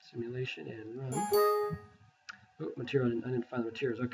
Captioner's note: warning bell